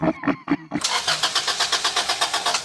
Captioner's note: man cackling; car turning over